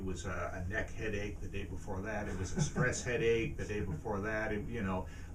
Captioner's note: laughs